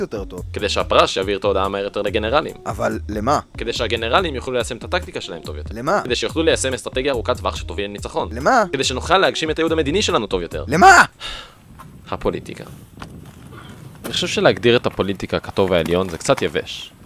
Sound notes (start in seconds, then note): 11.1 sigh